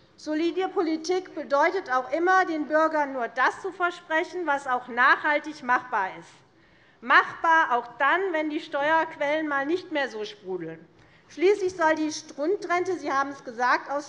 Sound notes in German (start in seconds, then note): none